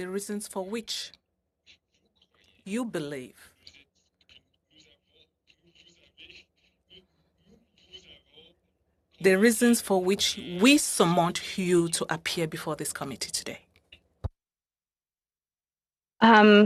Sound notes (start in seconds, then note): 3.7 speaking French